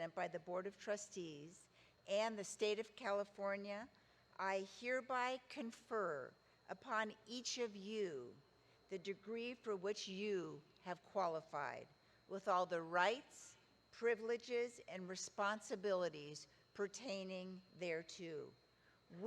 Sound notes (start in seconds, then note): none